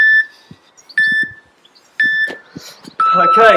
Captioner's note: beep